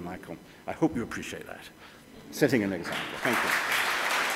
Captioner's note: applause